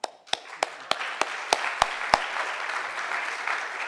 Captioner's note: audience applauding